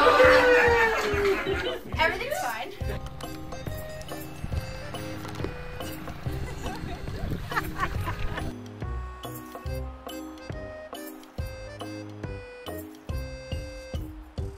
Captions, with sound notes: (people cheering) - Everything's fine. (woman laughing) (playful music)